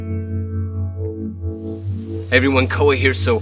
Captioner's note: insect noises